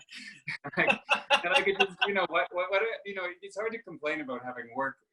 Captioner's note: laughter